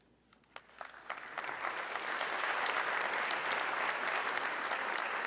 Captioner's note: audience clapping